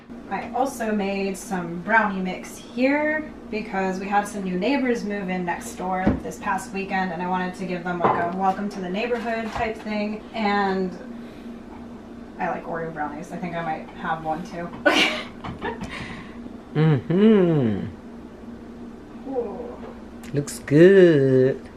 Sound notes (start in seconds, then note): 15.1 laughs